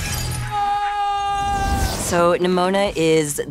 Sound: person screaming

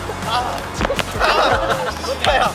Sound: flap

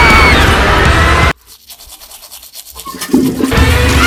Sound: brushing

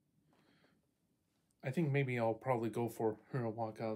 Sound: deep breaths in and out

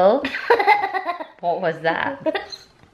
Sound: laughing

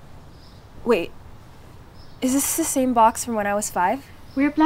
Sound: none

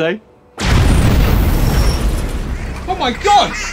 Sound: explosion

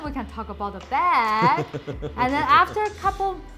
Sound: laughs

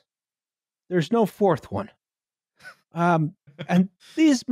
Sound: laughs quietly

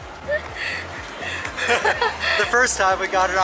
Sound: laughing

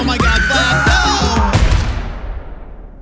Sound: gunshot

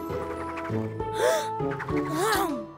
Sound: gasping

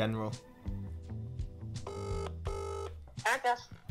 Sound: phone ringing noise

